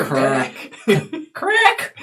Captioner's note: all laugh